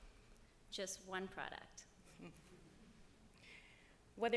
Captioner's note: laughter